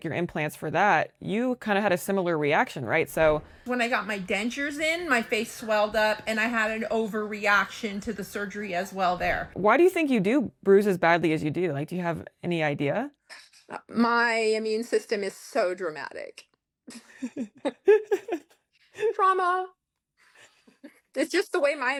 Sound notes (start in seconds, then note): 16.9 laughter